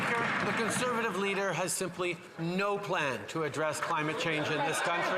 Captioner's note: some Applause